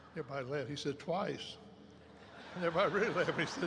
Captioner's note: laughter erupts